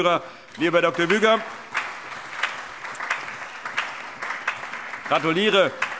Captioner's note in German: Allgemeiner Beifall